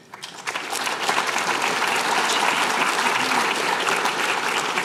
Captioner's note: applause